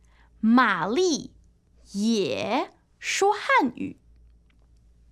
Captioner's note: 说汉语